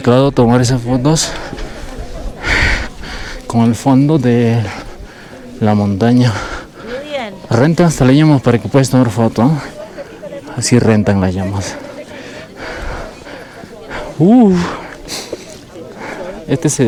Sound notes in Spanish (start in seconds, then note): 13.5 jadeo